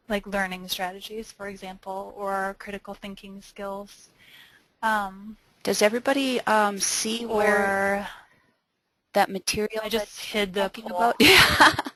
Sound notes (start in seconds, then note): 5.9 voiceover